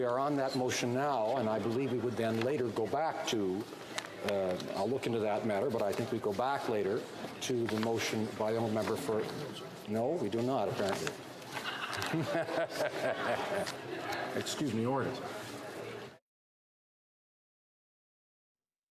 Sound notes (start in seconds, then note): 15.1 laughter